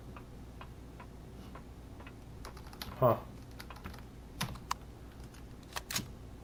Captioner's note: footsteps; footsteps; reloading